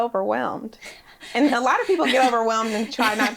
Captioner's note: laughs